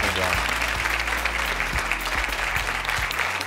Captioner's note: crowd clapping